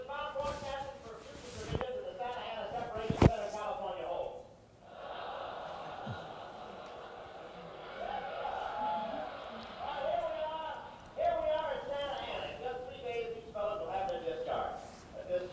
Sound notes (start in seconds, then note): 4.8 audience laughter